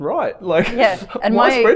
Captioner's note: chuckles